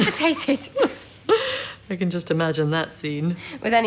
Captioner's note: they laugh